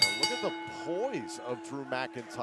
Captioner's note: bell ringing